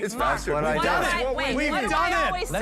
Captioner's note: group chattering